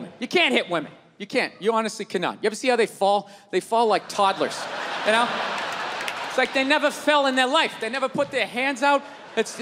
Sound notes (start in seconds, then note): 4.0 crowd laughs